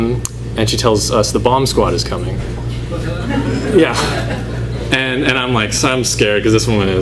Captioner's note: laughter